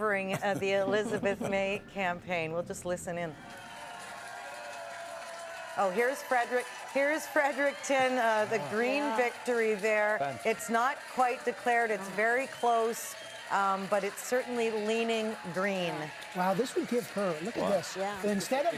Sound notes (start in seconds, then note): 8.6 cheering